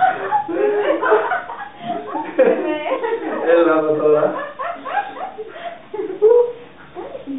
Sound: laughs

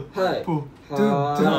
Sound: vocal percussions

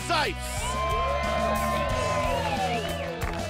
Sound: cheering

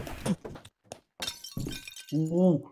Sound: cups breaking

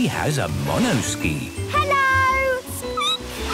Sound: squeaking

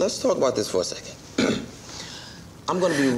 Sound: clears throat

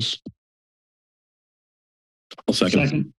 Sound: silence

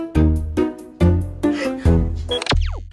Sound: sighs from the old father

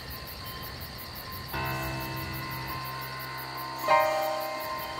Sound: crickets chirping

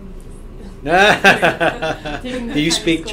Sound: laughs

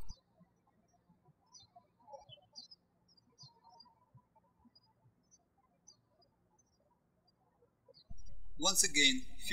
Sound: birds chirping

